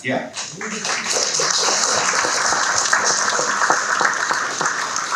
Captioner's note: audience clapping